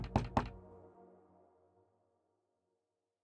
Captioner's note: Door knock